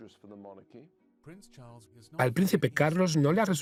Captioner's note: voiceover